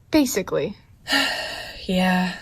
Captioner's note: sighs